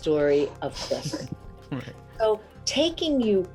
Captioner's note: chuckling